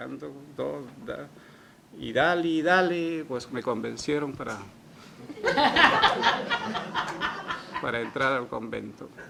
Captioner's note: risas